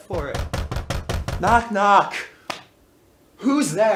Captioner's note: knocking within